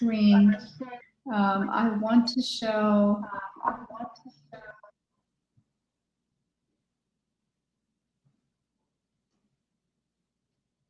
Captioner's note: background feedback